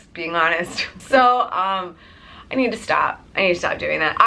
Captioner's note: laughs